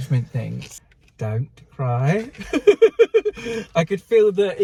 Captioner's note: laughing